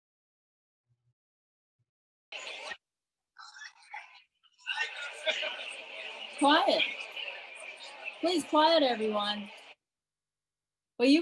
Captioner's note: noises from table of people